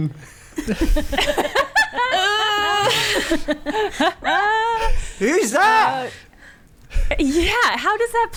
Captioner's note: laughing